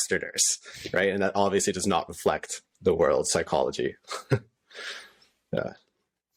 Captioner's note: laughter